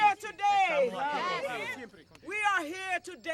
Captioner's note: group responds